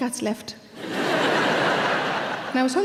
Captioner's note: audience laughing